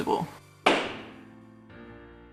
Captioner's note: gavel bang!